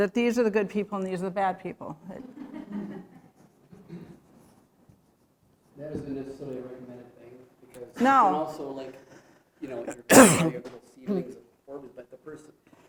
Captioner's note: laughter